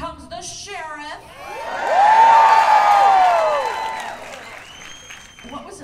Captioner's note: cheers and applause